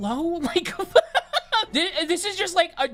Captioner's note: laughing